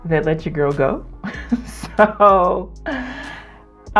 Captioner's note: laughs out of irony